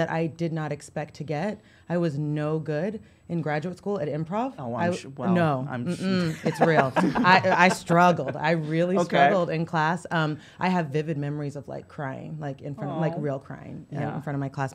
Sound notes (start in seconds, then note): 6.0 laughs